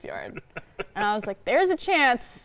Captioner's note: laughing